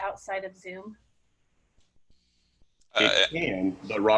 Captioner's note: silence